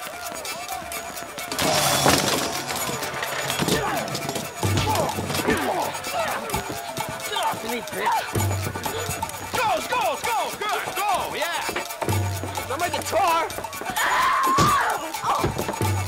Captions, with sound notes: (crashing) (bashing) - Get off of me, bitch! - Go, go, go, good go, yeah. - Not my guitar! (shrieking)